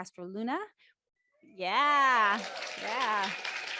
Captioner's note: crowd applauding and whooping